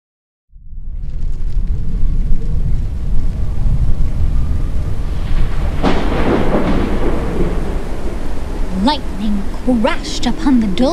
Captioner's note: howling wind, thunderstorm